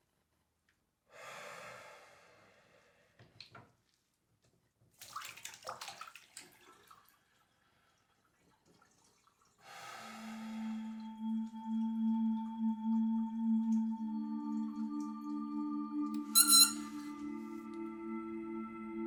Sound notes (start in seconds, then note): 1.1 Aiden exhaling; 5.0 water splashing; 9.6 Aiden exhaling; 11.1 brooding music; 16.3 metal squeaks